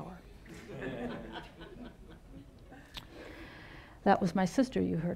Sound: audience laughing

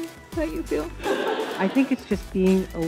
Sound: laughing

